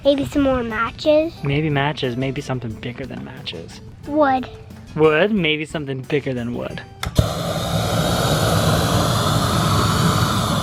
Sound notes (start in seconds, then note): 7.1 torch hissing